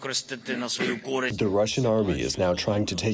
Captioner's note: through translator